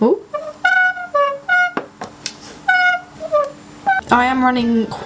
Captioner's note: continued forced squeaking; squeak